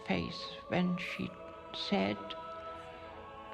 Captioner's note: speaking foreign language